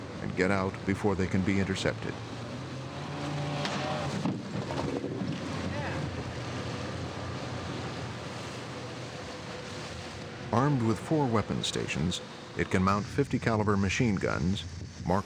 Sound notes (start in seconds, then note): 2.9 boat motor; 5.7 voiceover; 10.5 voiceover